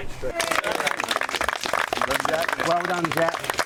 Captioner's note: applause